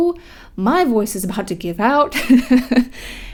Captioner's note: laughs